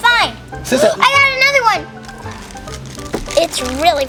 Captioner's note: gasps